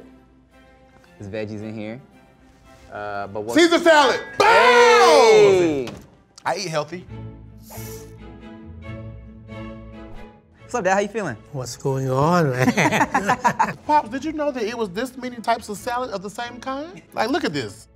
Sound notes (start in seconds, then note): 7.6 soft orchestral music; 12.5 all laughing